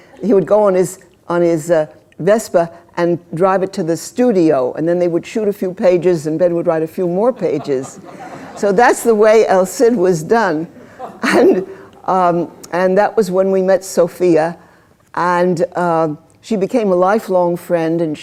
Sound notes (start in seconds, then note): 7.4 laughter; 11.5 laughter